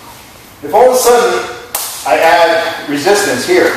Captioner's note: smack